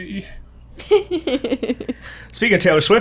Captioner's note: laughing